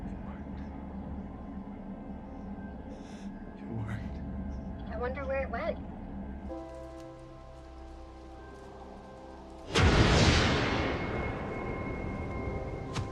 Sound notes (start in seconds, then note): 9.7 apple whooshes